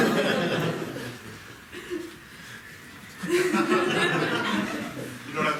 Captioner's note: audience laughing